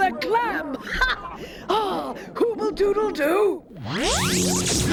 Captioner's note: laughing